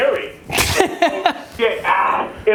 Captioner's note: laughs